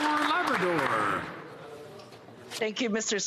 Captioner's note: some Applause